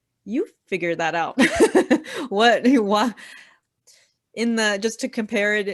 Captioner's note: laughing